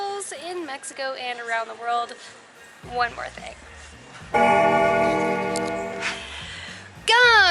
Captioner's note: bell Rings